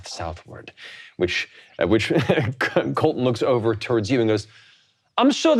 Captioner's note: laughing